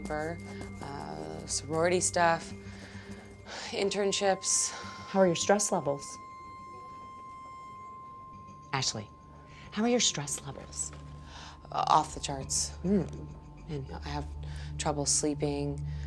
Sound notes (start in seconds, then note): 2.5 sighs; 6.3 piercing electronic tone